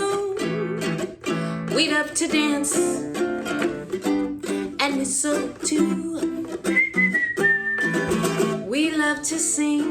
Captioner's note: whistling